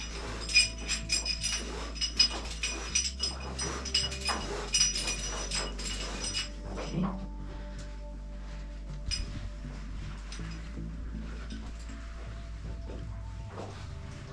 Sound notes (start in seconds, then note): 7.8 quietly; 9.1 heavy breathing; 10.2 metal clanking